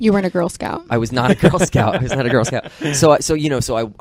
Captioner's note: laughter